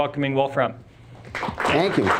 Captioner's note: students applauding